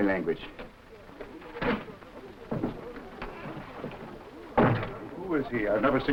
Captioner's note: door slamming; footsteps echoing